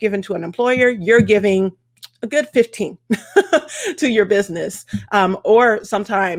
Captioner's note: laughs